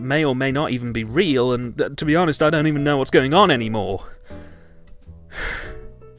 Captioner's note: sigh